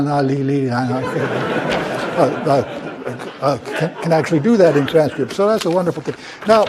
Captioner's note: laugh